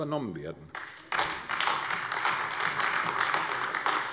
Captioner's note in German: Beifall AfD